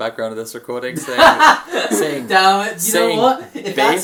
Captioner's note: laughter